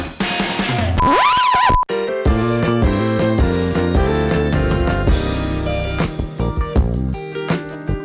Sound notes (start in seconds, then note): 0.9 screeching record; 1.9 slow jazzy music